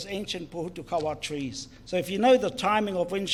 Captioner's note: foreign Language